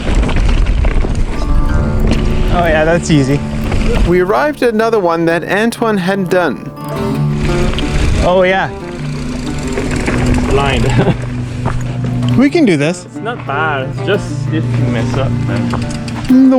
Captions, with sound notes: Oh yeah, that's easy. We arrived at another one that Antoine hadn't done. Oh yeah, it's blind. (chuckles) We can do this. - It's not bad. It's just if you mess up, man.